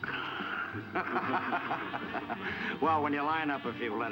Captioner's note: officers laughing